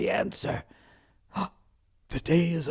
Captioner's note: gasps